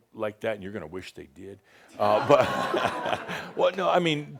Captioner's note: audience says “Ohh!”